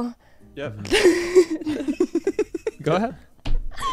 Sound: laughs

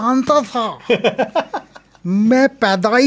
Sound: laughs

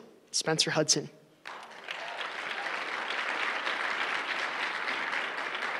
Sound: applause

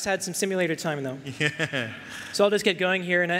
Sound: chuckling

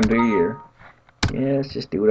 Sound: chime

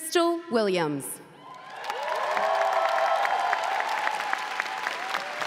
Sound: audience cheering

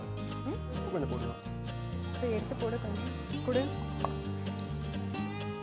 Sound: both speak in foreign language

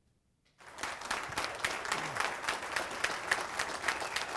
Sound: audience applause

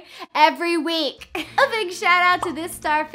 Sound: chuckles

